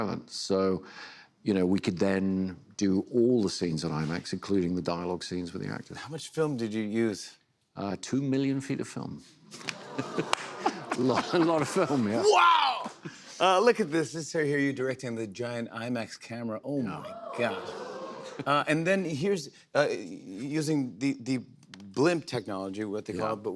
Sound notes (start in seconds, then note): 9.6 chuckles; 17.0 audience gasps